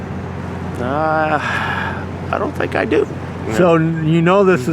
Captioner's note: sighs